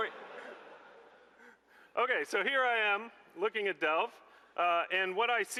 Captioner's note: laughter